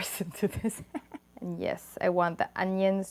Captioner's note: laughs